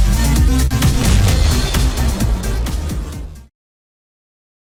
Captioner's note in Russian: Огромный бух